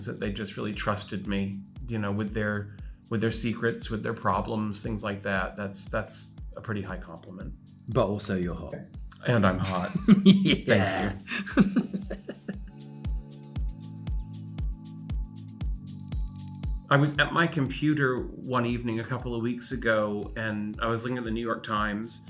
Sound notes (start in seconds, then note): 9.6 Ben chuckling; 13.1 upbeat music